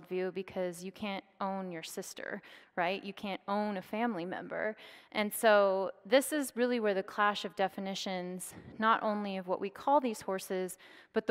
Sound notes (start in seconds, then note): none